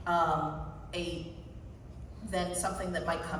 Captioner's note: none